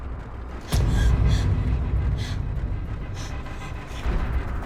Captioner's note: Mattie gasping